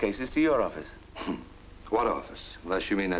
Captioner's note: chuckles